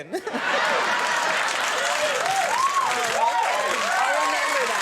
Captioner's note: audience laughing and clapping